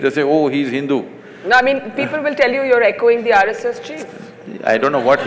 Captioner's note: laughter